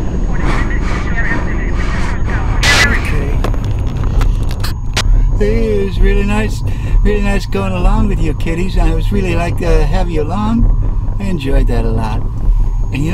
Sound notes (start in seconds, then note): 2.4 breathing